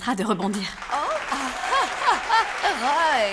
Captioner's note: applause